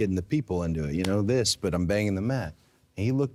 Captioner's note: calpping